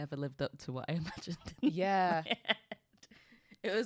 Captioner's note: laughs